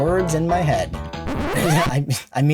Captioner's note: record scratch